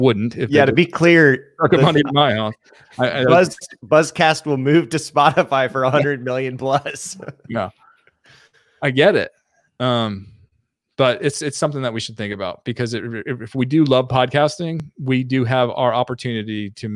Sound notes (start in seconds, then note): 8.0 laughs